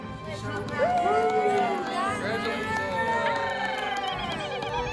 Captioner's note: family and friends applauding